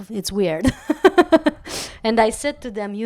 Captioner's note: laugh